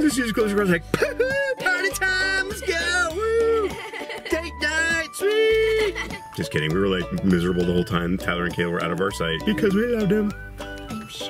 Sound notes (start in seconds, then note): 3.1 laughs